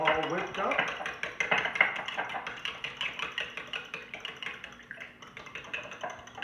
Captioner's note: whisk hitting sides of container